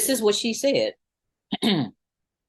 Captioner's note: clears throat